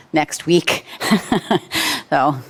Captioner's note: chuckling